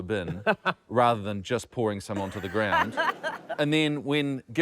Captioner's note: laughter